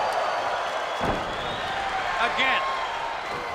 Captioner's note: Flyin' Brian thuds